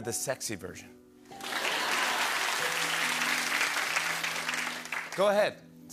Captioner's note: laughter and applause